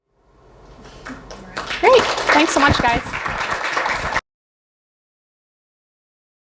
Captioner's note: audience applauds